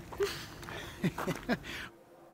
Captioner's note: laughs